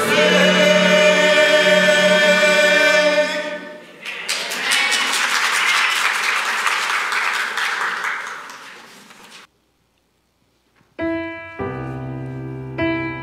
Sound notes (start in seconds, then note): 4.0 audience applauding; 11.0 gentle piano music